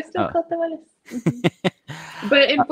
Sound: laughs

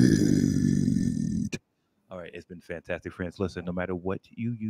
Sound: speaking normally

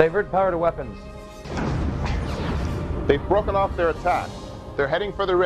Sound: explosion

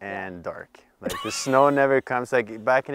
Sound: laughs

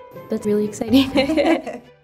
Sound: laughter

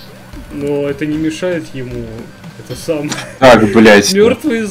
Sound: chuckle

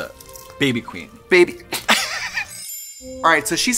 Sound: both laugh

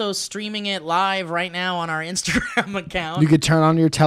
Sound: chortle

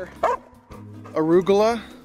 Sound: dog barks

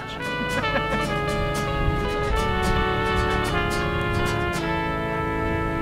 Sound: lighthearted music; people laughing

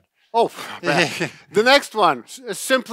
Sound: laughs

